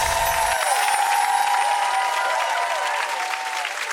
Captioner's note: crowd cheering; chimes ringing